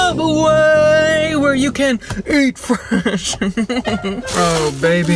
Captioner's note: laughs